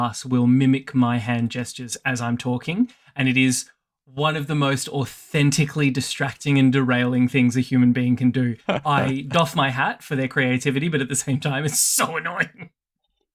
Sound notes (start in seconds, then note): 8.6 chuckles